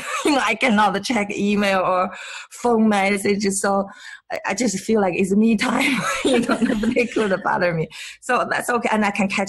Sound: laughs

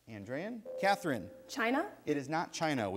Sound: ding

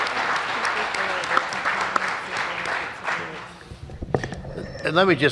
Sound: applause

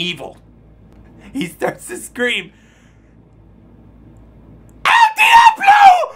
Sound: giggles

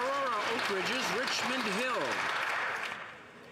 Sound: some Applause

